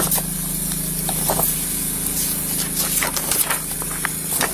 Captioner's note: papers shuffle